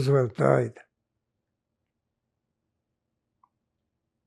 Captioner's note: pauses 6 seconds